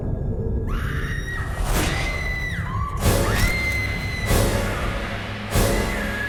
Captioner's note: screaming sound